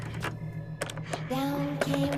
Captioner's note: door knob clicking